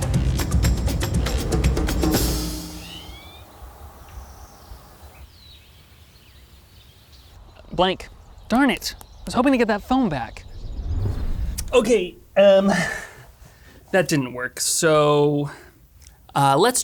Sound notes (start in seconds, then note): 0.0 car engine revving; 0.0 soft music; 3.1 bird chirping; 4.6 birds chirping